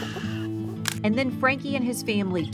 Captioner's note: shushing; camera shutter clicking